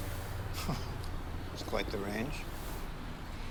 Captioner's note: chuckles